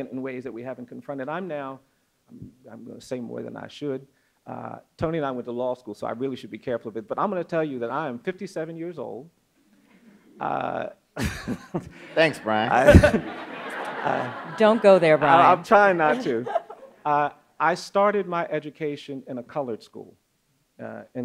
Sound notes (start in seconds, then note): 11.2 laughs; 12.7 audience laughs